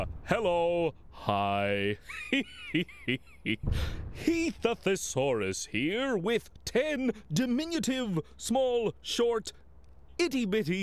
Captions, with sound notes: HELLO! HI! ( chuckles ) HEATH THE THESAURUS HERE WITH TEN DIMINUTIVE, SMALL, SHORT, ITTY-BITTY